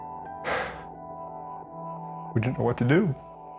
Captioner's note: sighs heavily